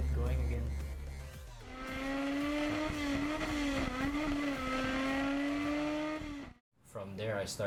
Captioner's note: cars revving